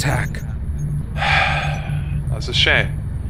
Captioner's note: sighs